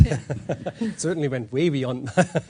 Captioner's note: laughs